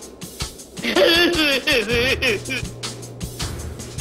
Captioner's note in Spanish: Lloriqueos